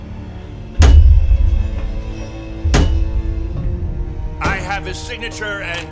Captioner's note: thump thump